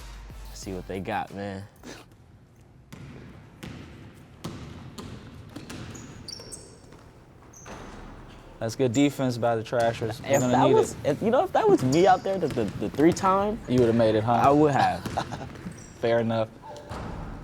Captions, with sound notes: - Let's see what they got, man. (ball dribbling) (sneakers squeaking) - That's good defense by the Trashers. They're gonna need it. - You know, if that was me out there, the three-time- - You would've made it, huh? - I would have. - (laughing) Fair enough.